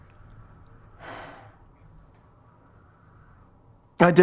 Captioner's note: exhale